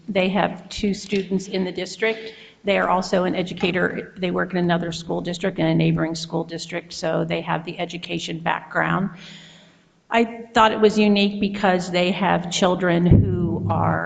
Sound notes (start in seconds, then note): none